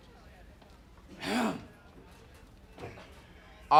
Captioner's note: clears throat